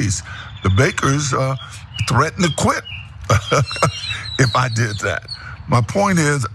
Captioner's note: laugh